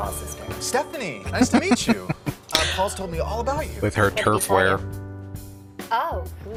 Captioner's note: laughing